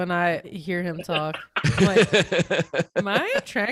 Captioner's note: laughter